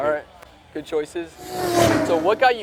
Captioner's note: car revs